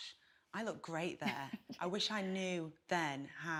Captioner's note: chuckles